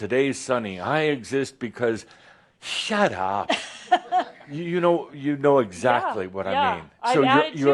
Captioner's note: she chuckles